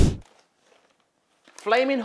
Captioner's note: bags crinkle